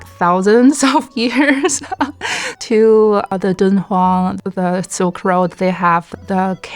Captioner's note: speaking Chinese